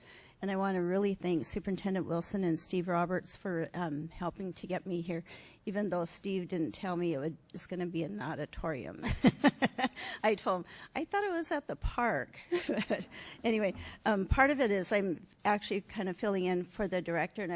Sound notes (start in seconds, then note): 9.0 laughs